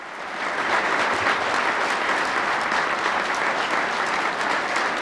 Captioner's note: crowd clapping